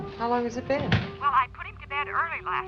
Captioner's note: on phone